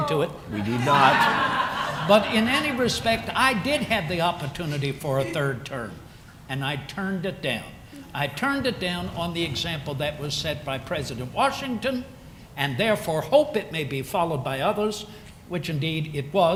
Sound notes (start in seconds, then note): 0.6 laughter